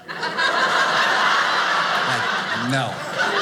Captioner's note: audience laughing